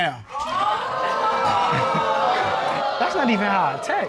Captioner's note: audience exclaiming